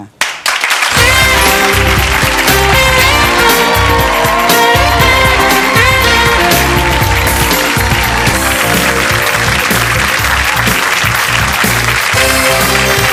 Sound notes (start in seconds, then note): 0.3 audience clapping; 0.3 jazzy music; 2.8 audience cheering and whistling